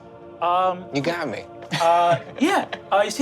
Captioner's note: laughs